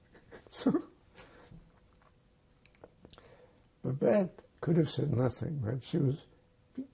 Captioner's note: laughing